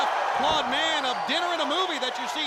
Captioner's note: crowd cheering